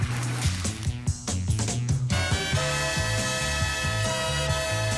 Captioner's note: electric sizzling